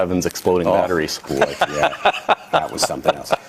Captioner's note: laughing